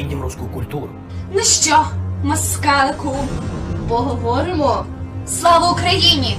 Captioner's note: russo